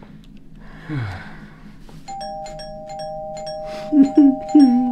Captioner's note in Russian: звонок